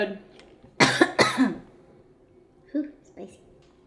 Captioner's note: coughing